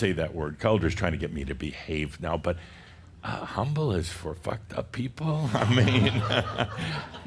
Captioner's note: laughter